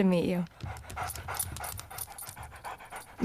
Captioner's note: panting